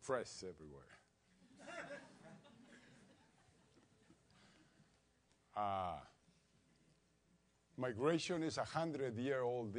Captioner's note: laugh